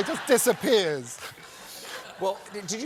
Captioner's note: laughter